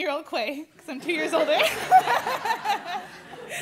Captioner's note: laughter